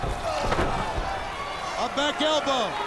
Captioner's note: Jarrett thuds